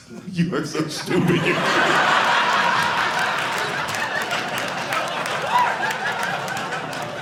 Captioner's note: audience laughing